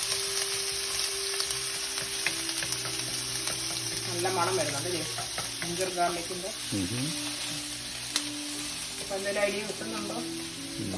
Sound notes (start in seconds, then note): 9.7 laughs